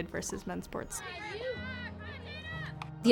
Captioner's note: indistinct cheering and chattering